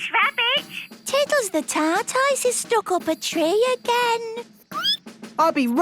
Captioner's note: squeaking